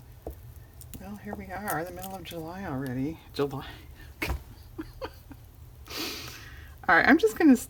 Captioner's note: laughs